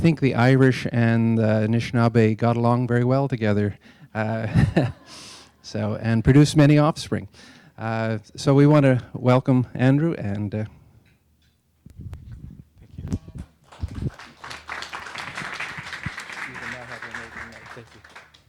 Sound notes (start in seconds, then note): 4.4 laughing; 13.6 applause